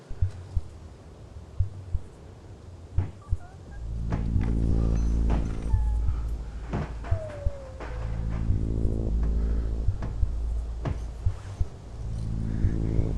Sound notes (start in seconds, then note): 1.5 heart beating; 4.3 chain thudding; 4.5 animal whimpering